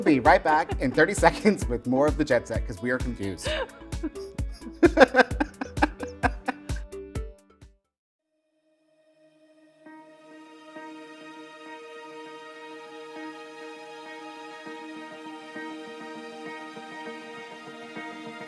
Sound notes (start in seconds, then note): 4.6 laughing; 9.1 lively music